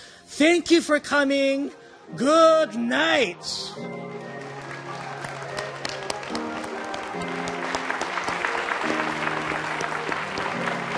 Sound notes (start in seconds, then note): 3.5 upbeat music; 3.8 audience applauding